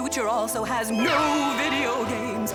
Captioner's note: ghost voice